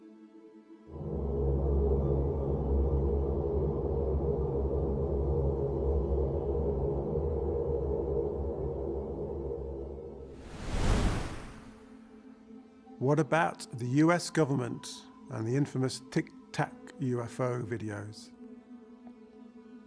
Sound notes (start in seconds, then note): 1.2 ominous music; 10.3 wind whooshing